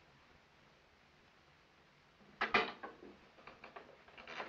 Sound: none

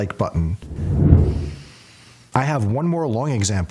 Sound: air whooshing

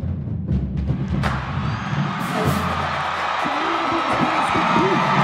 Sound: crowd cheering

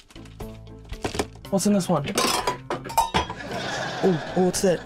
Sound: clattering

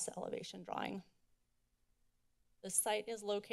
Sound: silence

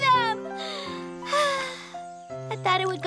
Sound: sigh

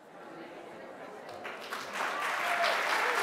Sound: audience chattering; audience applauding

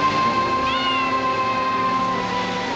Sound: cat meowing

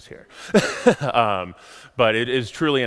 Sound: laughs

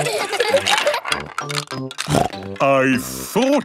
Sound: laughter; snorting

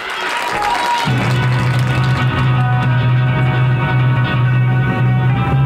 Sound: audience applauding; rock music

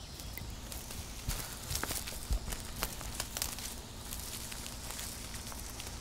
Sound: birds chirping; foliage crumbling

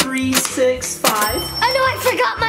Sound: cash register sound

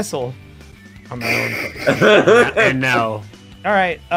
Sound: laughter

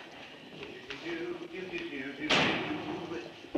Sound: humming

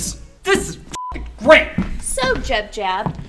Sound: beep

